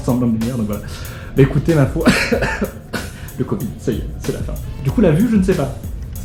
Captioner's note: coughs